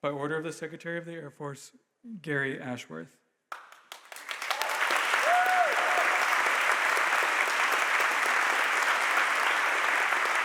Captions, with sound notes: By order of the Secretary of the Air Force, Gary Ashworth. (audience applauds and cheers)